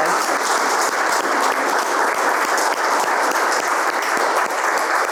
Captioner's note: audience applauding